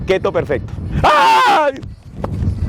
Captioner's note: aaaaaaaaaggghhh